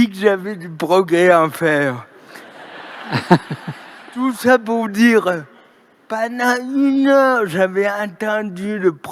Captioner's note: laughter